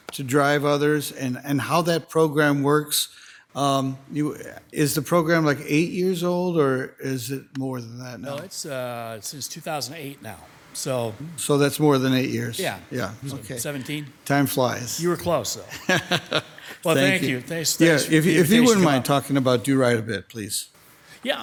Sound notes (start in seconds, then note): 15.6 laughing